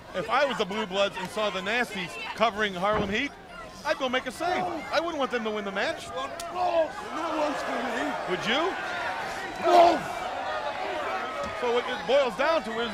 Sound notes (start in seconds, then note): 7.1 crowd chatter; 9.0 crowd chatter